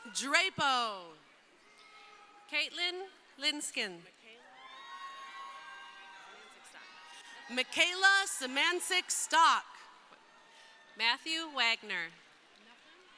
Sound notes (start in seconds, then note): 4.4 crowd cheering